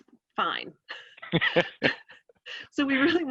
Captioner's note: both laughing